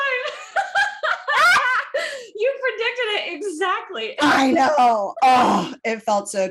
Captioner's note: laughing; satisfied sigh-grunt